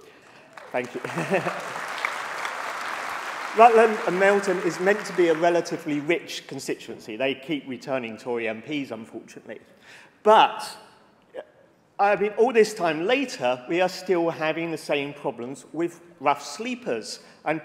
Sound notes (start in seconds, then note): 4.8 applause